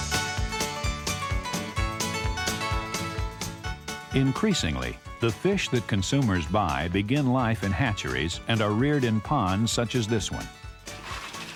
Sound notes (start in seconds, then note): 4.0 voiceover